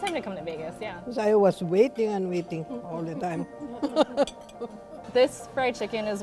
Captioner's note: laughter